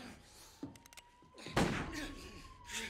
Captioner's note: police sirens wailing; gunshot blares